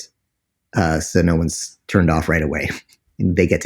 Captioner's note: laughs